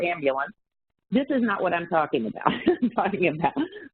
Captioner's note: laughs